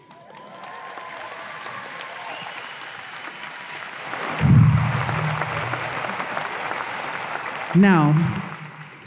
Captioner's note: audience applause